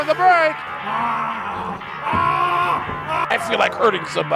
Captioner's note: screaming